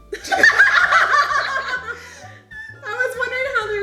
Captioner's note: laughing